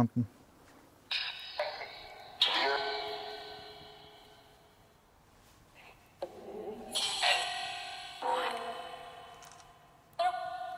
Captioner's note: APP talking in the background